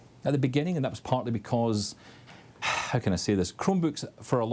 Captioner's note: sighs